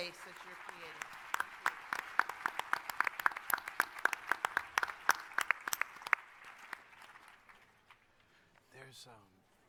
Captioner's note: applause